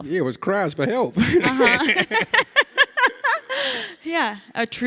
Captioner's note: Ilana and Danny laugh